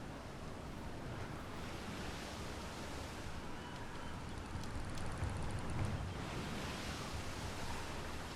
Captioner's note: waves crashing